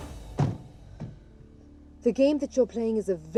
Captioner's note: door closing